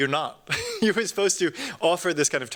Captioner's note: chuckles